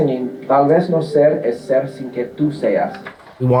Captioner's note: in Spanish